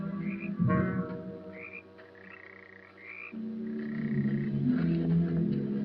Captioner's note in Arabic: خطوات